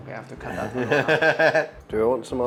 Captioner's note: laughs